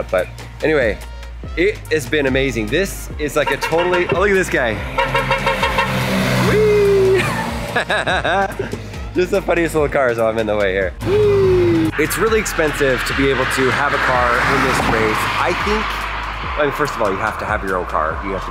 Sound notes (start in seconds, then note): 3.4 horn honking; 6.5 laughing